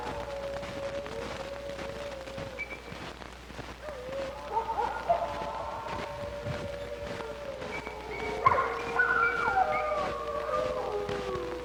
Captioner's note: dogs howling